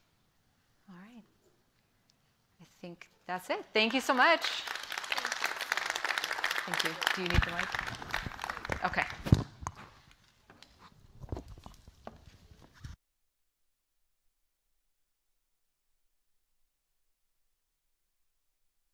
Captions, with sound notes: All right. I think that's it. Thank you so much. [APPLAUSE] Thank you. Do you need the mic? OK.